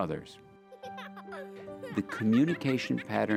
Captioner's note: girl Laughing